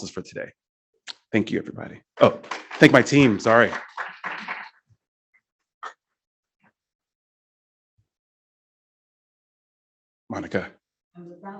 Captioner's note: applause